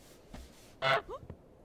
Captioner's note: honk